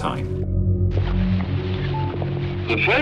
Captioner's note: radio fuzzing